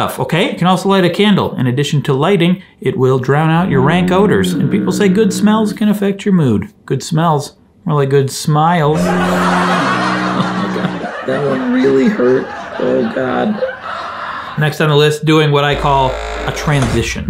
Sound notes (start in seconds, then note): 8.9 audience laughing